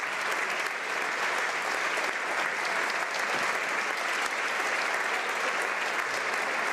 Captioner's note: applause